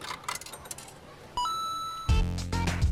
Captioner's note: coins dropping; beeping sound